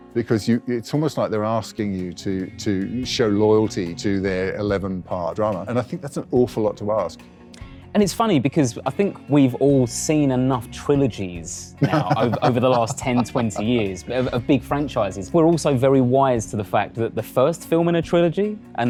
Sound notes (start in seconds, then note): 11.8 laughs